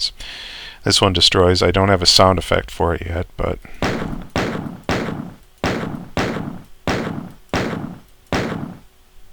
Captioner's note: gunshots